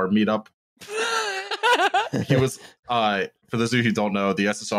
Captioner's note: laughs